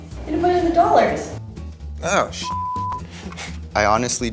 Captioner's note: beep